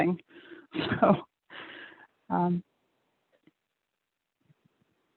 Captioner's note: chuckles